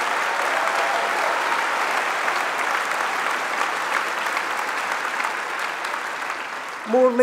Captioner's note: applause